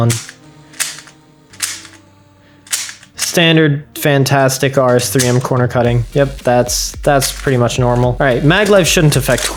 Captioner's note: clakc snapp clacc